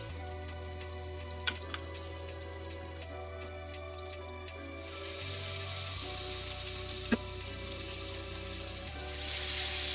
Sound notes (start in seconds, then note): 2.3 sizzling